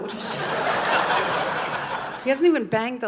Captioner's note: audience laughing